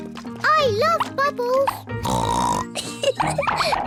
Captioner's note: oinks and giggles